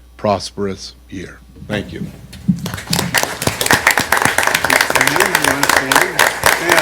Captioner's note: applause